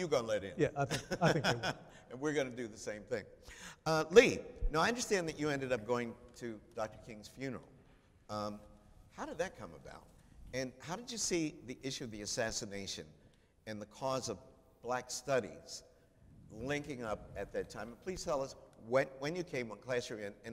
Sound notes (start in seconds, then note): 0.6 chuckles